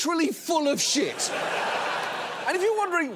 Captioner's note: studio audience laughing